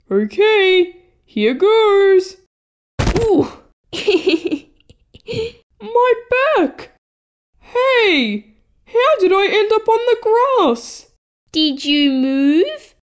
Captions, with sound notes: Ok, here goes! (Thud!) Ooof! He, he, he... My back! Hey! How did I end up on the grass Did you move?